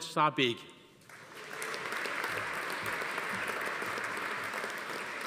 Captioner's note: audience applauding